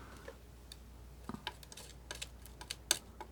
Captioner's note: scratching